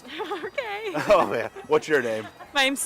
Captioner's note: laughing